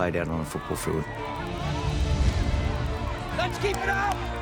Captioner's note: crowd cheering